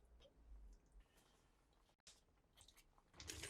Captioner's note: boiling